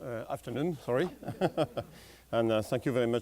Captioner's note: chuckles